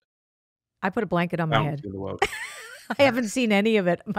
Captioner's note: laughs